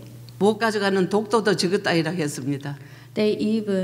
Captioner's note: speaking foreign language